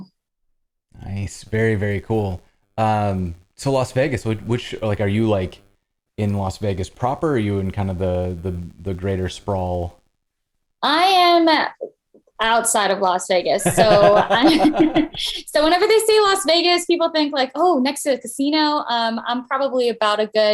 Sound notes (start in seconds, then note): 13.6 laughter